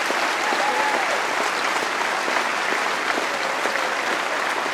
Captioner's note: applause